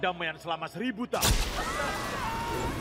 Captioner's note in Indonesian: kilat menyambar; kerumunan berteriak